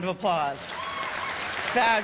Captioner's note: cheers and applause